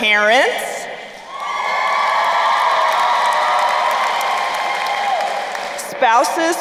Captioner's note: crowd cheering and applauding